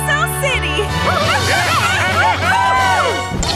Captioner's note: cheering